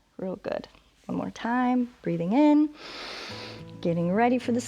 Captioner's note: inhales